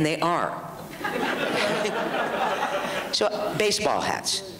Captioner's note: audience laughs